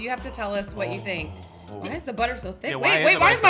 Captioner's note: moans